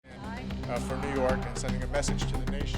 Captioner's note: ghostly Voice